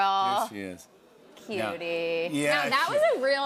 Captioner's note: audience murmurs